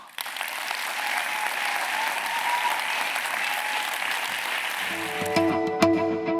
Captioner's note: applause